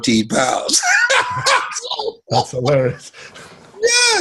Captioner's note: Les laughs